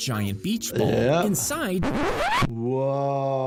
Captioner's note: record scratches